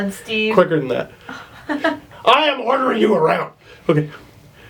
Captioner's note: laughs